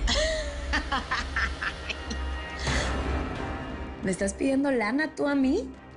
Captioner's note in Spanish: Risas